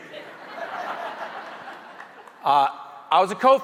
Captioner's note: audience chuckling